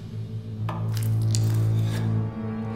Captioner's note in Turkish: Kesme sesi